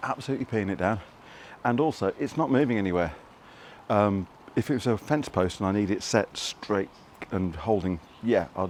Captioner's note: raining